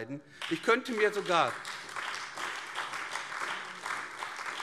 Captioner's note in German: Beifall AfD